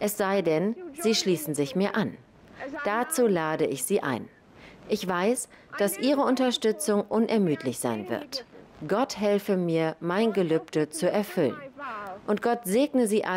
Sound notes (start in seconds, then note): none